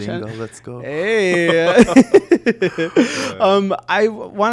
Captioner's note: both chuckling